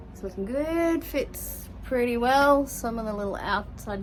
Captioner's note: none